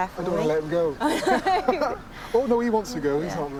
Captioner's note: both laughing